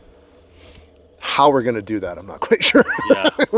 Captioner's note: laughs